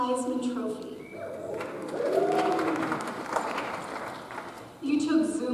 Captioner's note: audience applauds